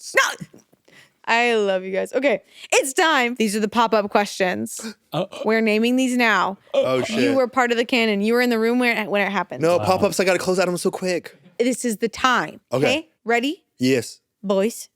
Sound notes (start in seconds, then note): 4.9 gasping